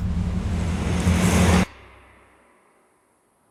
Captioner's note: wind blowing